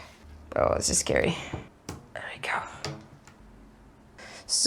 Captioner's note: rubber band snaps in place